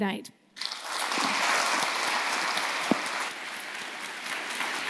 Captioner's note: audience applauding